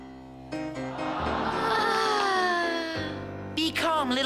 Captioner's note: sighs of admiration